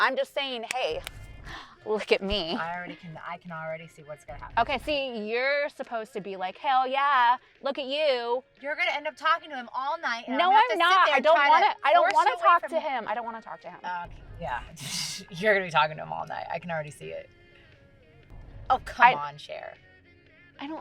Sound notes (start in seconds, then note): 15.0 scoffs